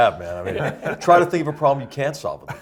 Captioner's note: laugh